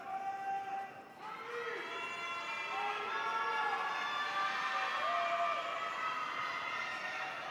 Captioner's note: audience cheering